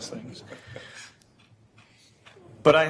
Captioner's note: laughing